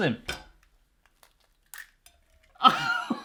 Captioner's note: cracks egg; laughs